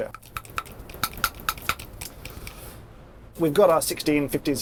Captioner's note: pump clanking